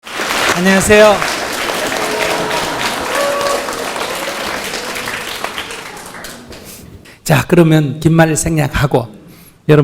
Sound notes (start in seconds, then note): 3.2 applause